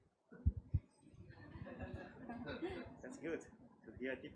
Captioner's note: crowd laughs